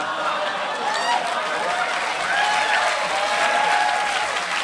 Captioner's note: applause